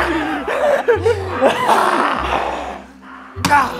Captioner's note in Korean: 지친 웃음; 흐느낀다